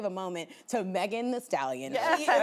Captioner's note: laughing